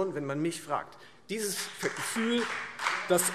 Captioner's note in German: Beifall Freie Demokraten und vereinzelt SPD